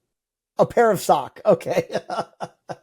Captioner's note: laughs